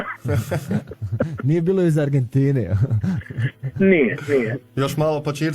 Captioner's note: laughter